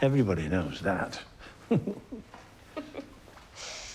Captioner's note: both chuckling; laughs